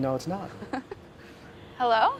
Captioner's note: laughs